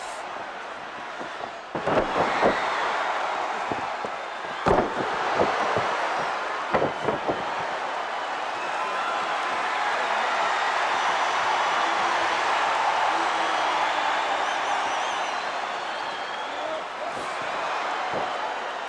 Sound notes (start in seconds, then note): 2.6 crowd cheers; 4.9 body thuds; 10.4 crowd cheering